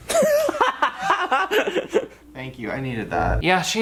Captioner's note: laughing